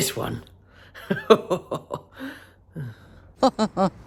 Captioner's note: laughs loudly; chuckles loudly